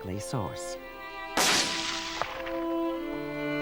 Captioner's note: gunshot